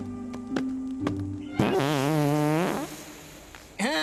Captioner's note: farting